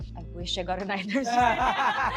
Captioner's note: lovi laughs